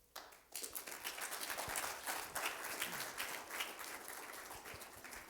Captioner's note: applause